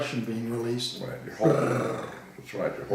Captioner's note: mimicking engine purring